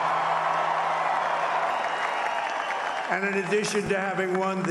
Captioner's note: applause